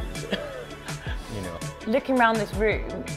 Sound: chuckles

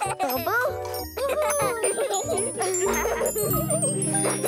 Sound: gasping and laughing; laughing

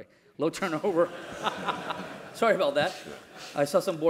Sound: laugh

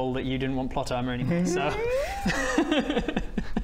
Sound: noises of deep regret

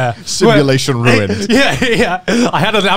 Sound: laughing

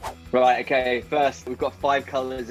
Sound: swooshing

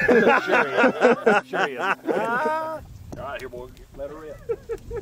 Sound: laughing

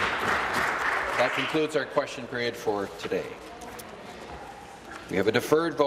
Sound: applause

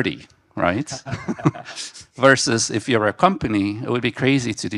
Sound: group laughing

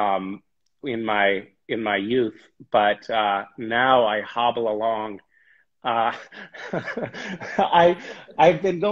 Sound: laughs

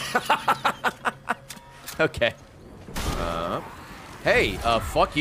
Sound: laughs

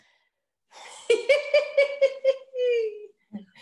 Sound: laughing loudly

